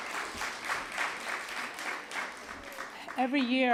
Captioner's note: applause